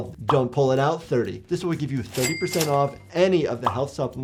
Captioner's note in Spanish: suena la caja registradora